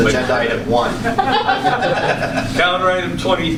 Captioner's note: laughter